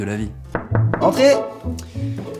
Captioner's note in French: toc toc toc